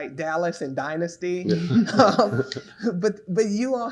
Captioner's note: all laughing